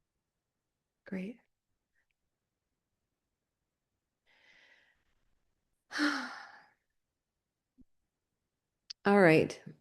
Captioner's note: long pause